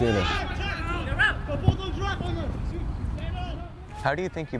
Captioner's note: players shouting